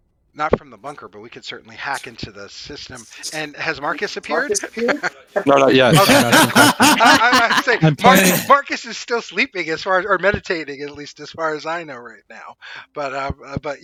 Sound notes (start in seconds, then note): 4.4 laughter